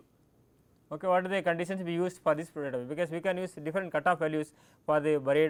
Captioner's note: click